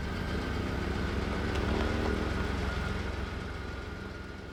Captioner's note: car rumbling